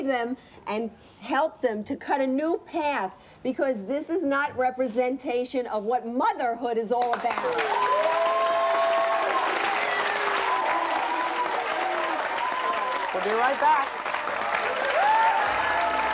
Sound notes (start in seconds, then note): 7.5 applause